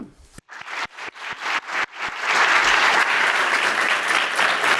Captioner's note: audience applauding